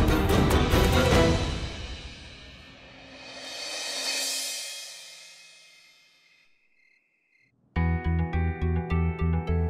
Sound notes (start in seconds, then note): 5.7 crickets chirping; 7.8 tense music